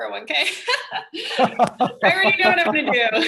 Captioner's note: laughs